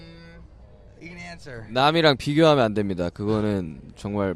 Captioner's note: someone hums